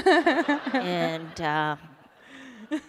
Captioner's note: laughter